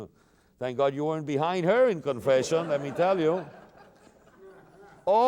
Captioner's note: laughter